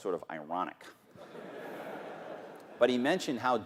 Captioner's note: laughter